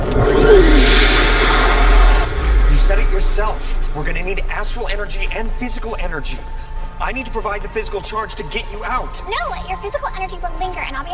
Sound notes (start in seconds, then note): 0.0 knife whirring